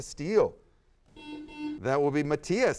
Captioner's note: buzzer sounds